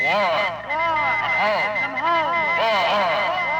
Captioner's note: sirens